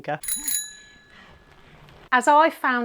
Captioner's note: bell dings